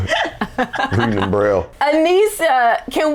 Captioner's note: all laughing